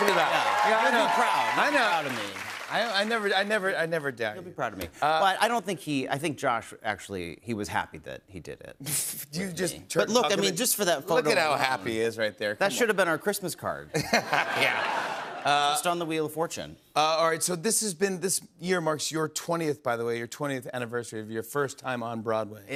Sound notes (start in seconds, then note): 13.9 laughter